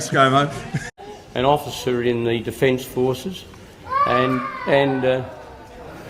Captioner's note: baby cries